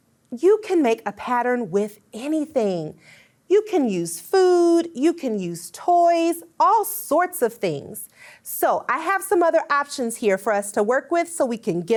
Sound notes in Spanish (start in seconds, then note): none